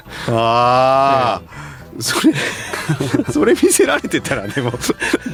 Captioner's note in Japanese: 笑い